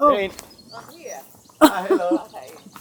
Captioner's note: in catalan